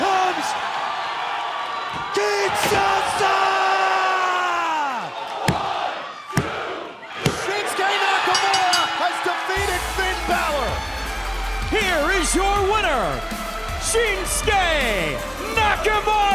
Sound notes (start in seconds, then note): 8.2 bell ringing